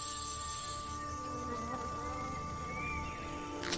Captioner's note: fly buzzing